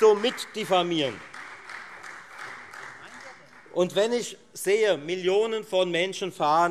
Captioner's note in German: Beifall Freie Demokraten